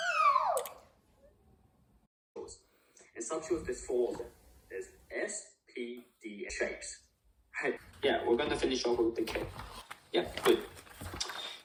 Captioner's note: girl screaming